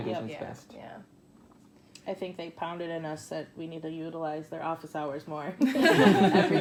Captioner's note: laughs